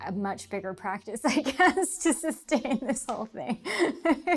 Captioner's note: laughter